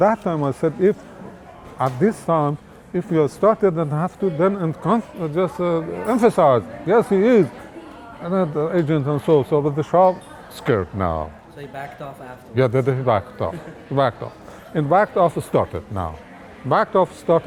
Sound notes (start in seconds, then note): 13.3 laughs